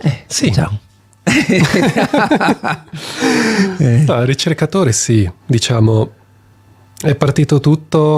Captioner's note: laughs